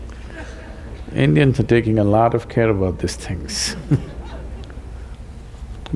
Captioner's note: few laugh